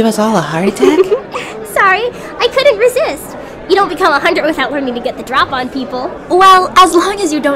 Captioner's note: giggles